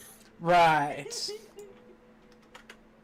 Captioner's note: giggling